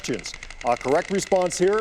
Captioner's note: puzzle clicking